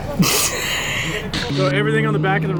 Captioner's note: laughter